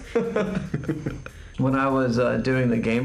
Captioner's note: laughing